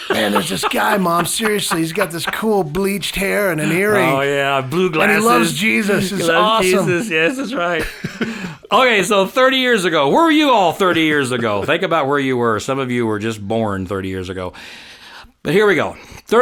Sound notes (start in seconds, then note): 8.0 both laughing